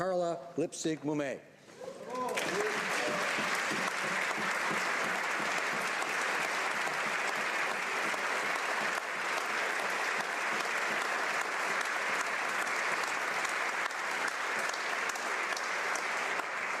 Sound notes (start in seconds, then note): 7.5 applause